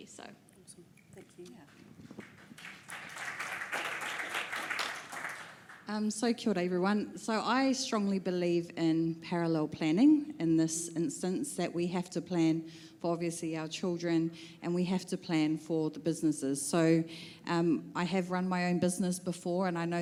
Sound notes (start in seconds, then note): 2.0 applause